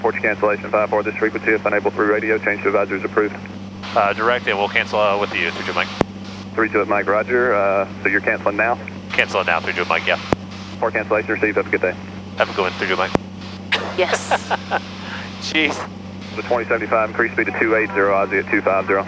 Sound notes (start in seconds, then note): 13.7 laughs